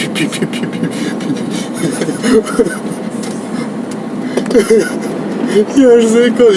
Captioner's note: laughing hysterically